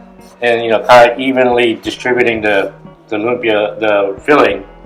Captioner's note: none